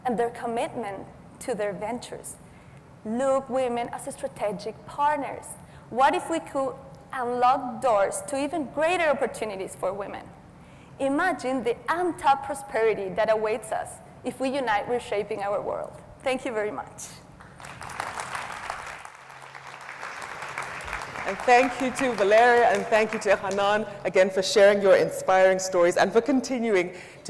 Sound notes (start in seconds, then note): 17.4 audience applauds